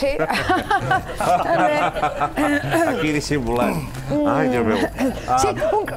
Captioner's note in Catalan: riure forçat